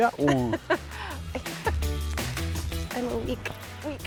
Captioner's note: laughter